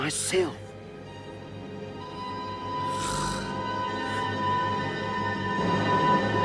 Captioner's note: tense music; gunslinger snoring